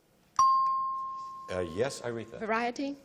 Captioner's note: dings